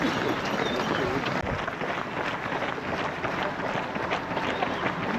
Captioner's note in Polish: Aplauz